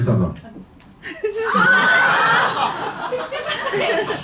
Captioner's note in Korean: 비명